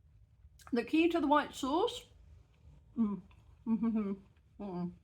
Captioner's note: happy mouth noises